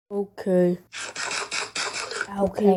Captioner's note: eating